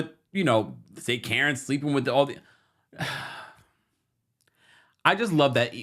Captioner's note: sighs